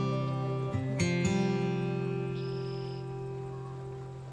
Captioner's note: birds twitter; peaceful guitar music